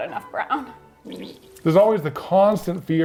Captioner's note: comical squelching